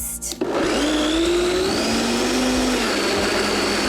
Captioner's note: blender whirring